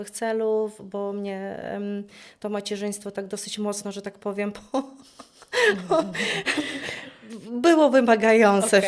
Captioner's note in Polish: śmiech